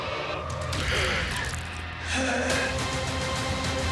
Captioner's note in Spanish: Estertor